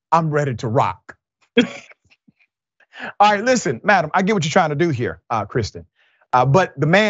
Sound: laugh

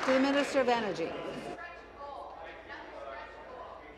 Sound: applause

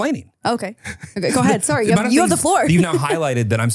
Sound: laughs

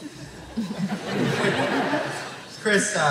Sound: laughter

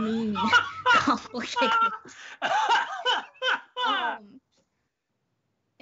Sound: Brennan chortling

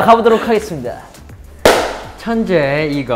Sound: clap

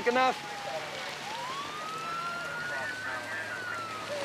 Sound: siren wailing

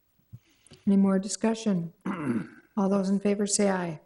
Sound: man clearing voice

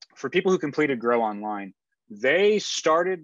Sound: none

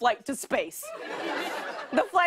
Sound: laughter

